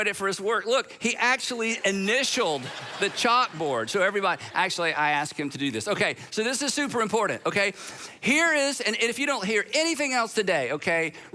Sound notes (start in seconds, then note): 1.5 audience laughs